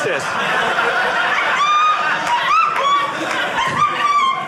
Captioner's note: audience laughing